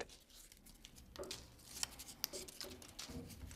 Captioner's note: rustling